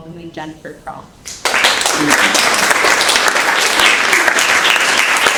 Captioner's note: audience clapping